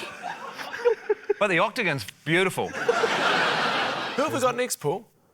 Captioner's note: shocked laughter; laughter